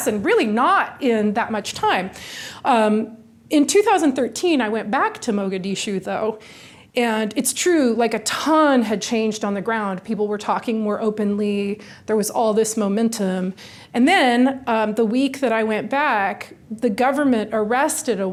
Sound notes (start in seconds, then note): none